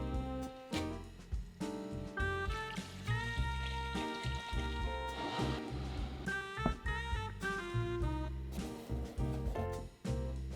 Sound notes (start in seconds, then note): 2.7 water pouring